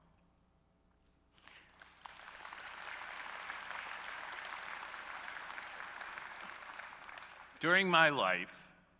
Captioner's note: applause